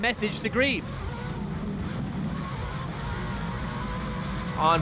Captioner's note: truck engines revving